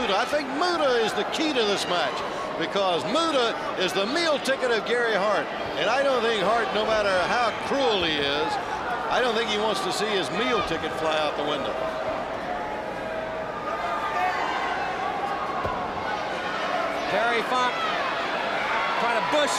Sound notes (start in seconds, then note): 12.0 crowd chatter